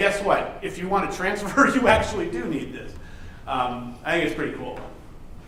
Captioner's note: laughs